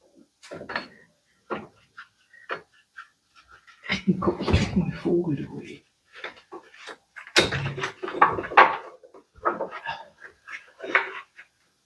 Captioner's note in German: gelächter